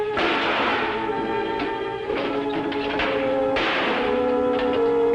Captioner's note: cash drawers smashing